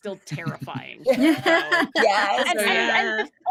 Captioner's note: actors laughing